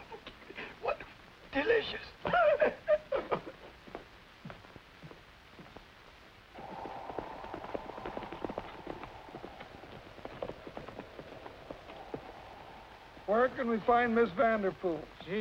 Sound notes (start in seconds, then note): 7.2 wind